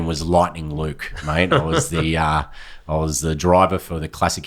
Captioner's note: laughing